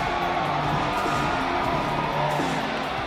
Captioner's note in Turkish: coşkulu tezahürat